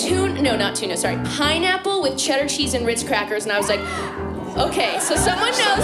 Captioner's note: audience member cheers